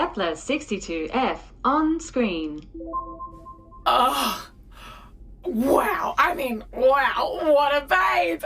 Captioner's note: A bright, pulsing bleep as Kepler 62f appears on the ship’s viewscreen